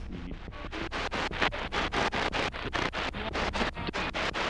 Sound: glitchy radio sounds

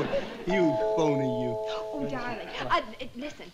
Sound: chuckles; doorbell chimes

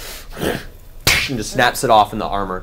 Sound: grunts

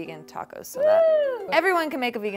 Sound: cheers

